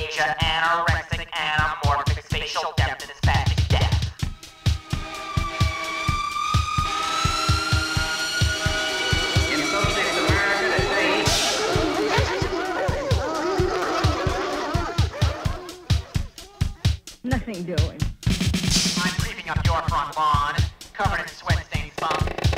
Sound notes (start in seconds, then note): 6.8 fire engine siren and horn on traveling vehicle; 11.2 barking dogs